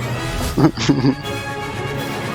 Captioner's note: muffled laughter